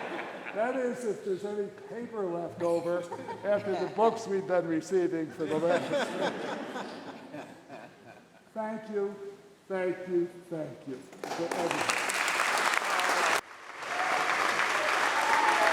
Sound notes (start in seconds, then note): 5.2 laughter; 9.0 applause